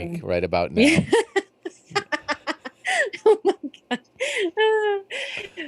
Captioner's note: laughs